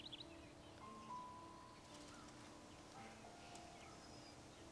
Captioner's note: birds chirping